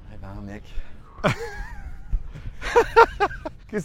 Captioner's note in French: Rires